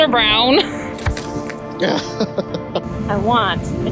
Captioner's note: laughs